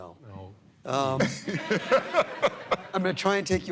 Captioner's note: laughter